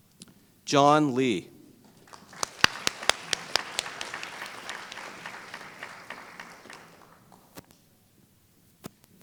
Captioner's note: applause